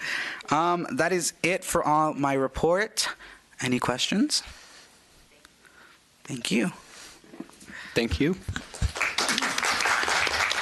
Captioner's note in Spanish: Aplausos